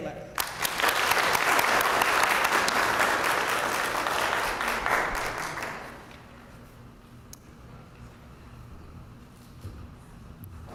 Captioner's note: applause